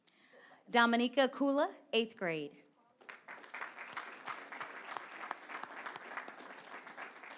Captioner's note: applause